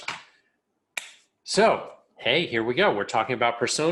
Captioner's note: clicks keyboard